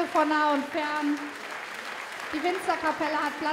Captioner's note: applause